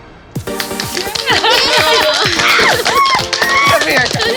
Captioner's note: cheering